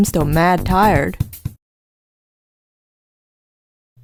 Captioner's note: awkward Silence